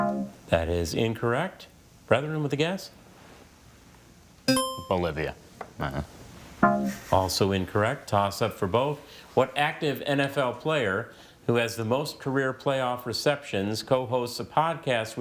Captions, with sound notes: (text buzzing) - That is incorrect. Brethren with a guess? (buzzer chiming) - Bolivia. (groans) (text buzzing) - Also incorrect. Toss-up for both. What active NFL player who has the most career playoff receptions co-hosts a podcast